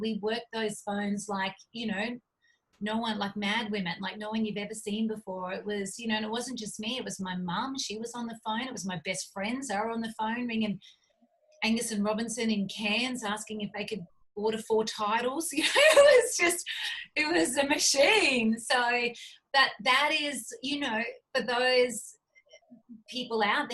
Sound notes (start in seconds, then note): 15.6 laughs